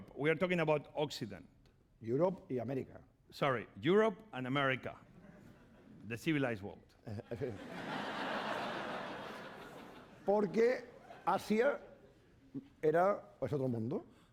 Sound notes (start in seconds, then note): 2.5 speaking spanish; 7.2 laughter; 11.1 speaking spanish